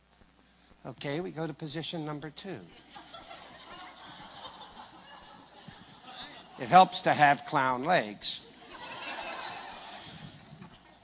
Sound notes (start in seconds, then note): 2.7 risate; 8.6 risate pių forti